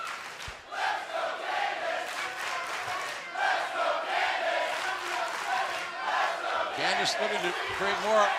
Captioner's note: fans chanting